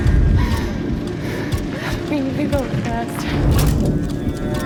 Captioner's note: breathing heavily